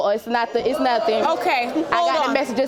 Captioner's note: audience groans